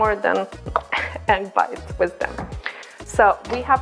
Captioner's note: laughs